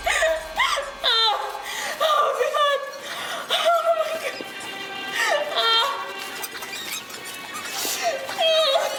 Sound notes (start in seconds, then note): 3.0 sobbing